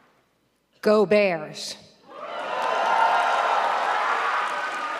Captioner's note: audience cheering